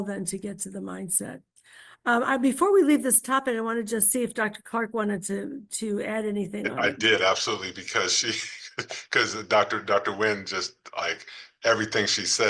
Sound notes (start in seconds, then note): 6.6 laughs